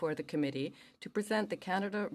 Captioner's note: speaking french